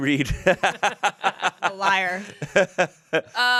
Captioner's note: everyone laughs